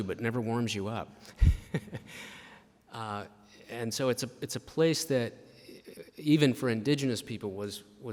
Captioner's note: chuckles